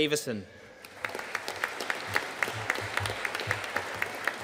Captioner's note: audience applauding